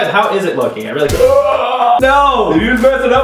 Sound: gasping

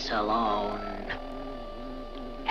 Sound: bee buzzes; somber harmonica music

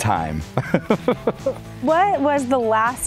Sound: laughing

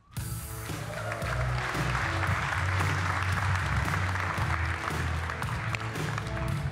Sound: lively music; audience cheering and applauding

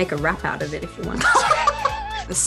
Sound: laughs

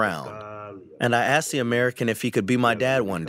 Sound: through translator

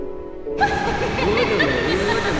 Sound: emma joyfully giggles

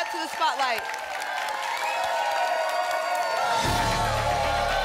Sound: applause and cheering

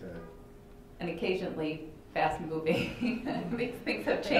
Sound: chuckles

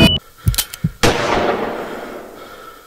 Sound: gunshot

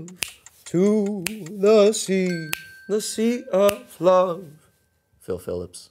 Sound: dinging

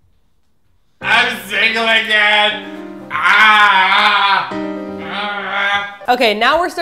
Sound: cries again

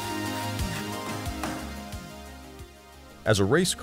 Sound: hammer pounding

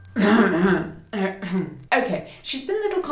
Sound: clears throat

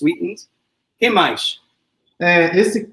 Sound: speaks portuguese

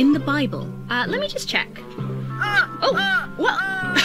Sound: The Count laughs; laughs

